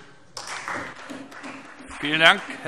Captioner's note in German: Beifall Freie Demokraten